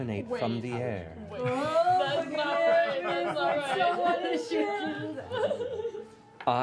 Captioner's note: exclamations